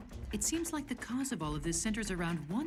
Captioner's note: none